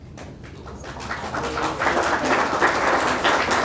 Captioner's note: audience claps